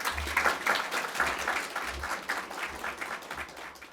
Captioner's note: audience clapping